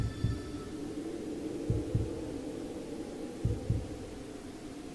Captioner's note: muffled wind howls